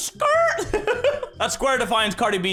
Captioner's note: giggles